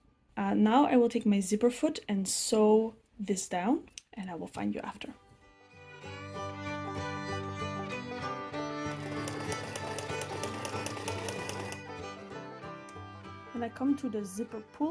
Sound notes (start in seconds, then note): 4.5 sewing machine noise; 5.3 violin music